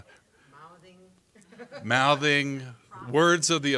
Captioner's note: audience laughing